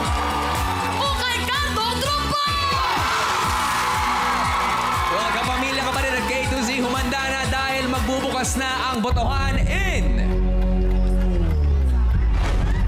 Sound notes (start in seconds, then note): 0.1 applause, cheering; 3.2 applause, cheering